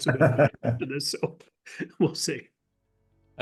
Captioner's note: laugh